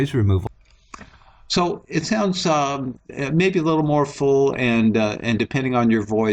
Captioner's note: voiceover